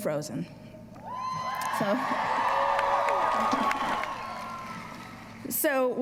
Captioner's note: applause